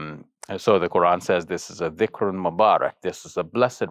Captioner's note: speaks Arabic